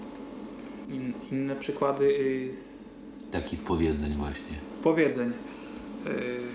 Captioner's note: speaking Polish